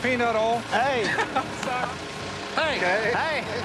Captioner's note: laughs